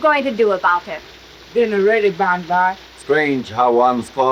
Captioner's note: speaks foreign language